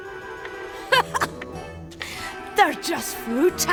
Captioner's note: laughing